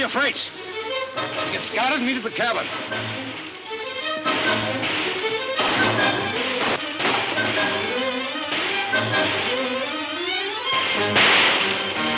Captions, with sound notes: Get Scott and meet at the cabin. (guns shooting)